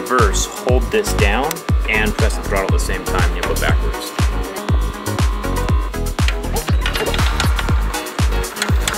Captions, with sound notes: in reverse, hold this down and press the throttle at the same time and you'll go backwards. (motor whirring) (upbeat music)